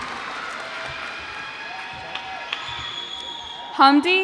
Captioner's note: cheers and applause